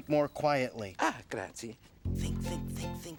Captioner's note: speaking in foreign language